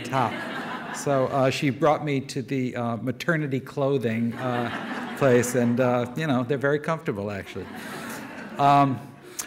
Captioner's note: laughter